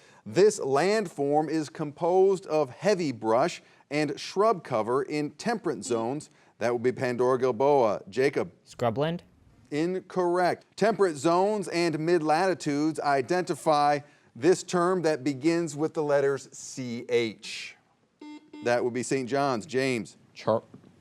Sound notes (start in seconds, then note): 5.8 buzzer buzzing; 18.2 buzzer buzzing